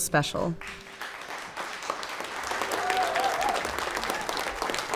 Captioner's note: audience clapping